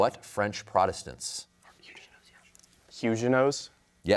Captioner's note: whispers